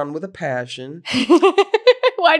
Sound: laughs

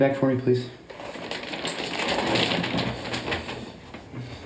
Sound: crinkling

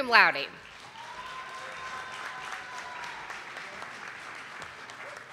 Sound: audience applauding

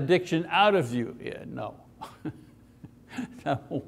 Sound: laughs

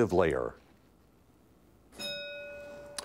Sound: bell ringing

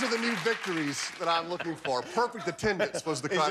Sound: laughter; cheers and applause

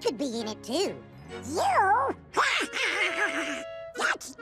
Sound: laughing

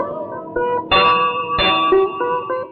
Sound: temple bell rings

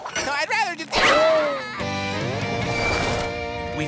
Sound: screaming

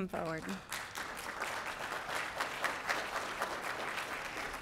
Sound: applause

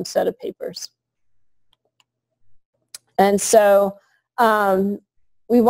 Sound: pause

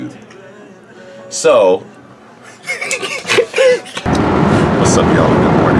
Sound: laughs

